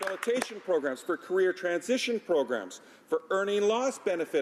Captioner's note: applause